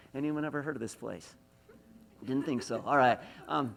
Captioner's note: laughs